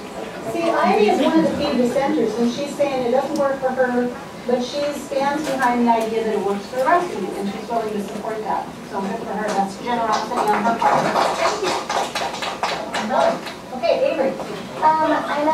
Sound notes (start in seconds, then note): 10.0 applause